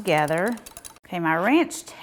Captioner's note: whisk clanking